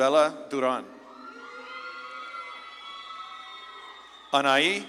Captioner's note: audience claps and cheers